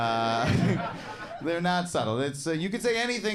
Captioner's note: chuckles